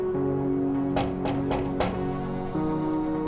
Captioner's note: knock on door